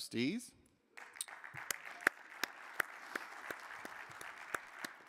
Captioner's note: crowd applauding